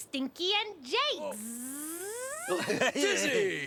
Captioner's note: buzzing